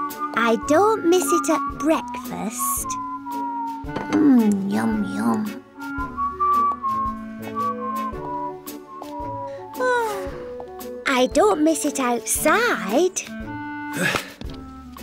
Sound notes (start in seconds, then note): 7.1 whistles sadly; 9.5 sighs